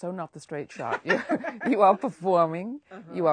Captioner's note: laughs